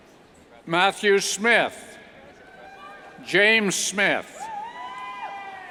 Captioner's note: cheers